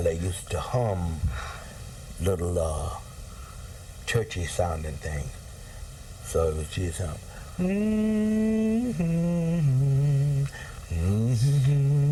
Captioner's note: humms